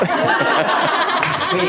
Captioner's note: audience laughing